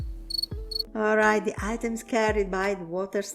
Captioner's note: crickets chirping